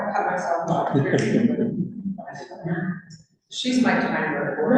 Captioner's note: laughs